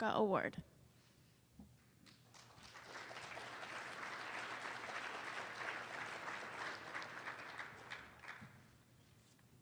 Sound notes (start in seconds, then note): 2.0 applause